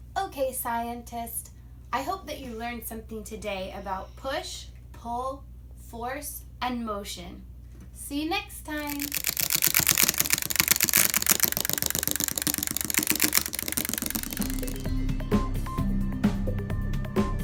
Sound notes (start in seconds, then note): 8.8 loud rattling; 14.6 upbeat music